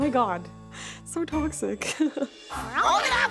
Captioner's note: laughing